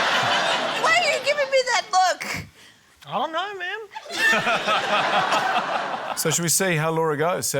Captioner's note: laughter; laughter